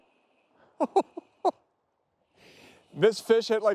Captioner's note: chuckles